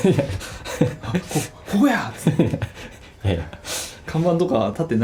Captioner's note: laughs